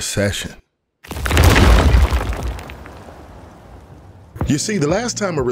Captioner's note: stones crashing